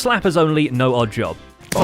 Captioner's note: everyone yelling